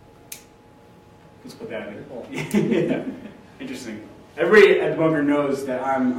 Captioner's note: laughs